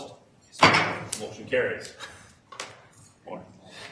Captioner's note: gavel bangs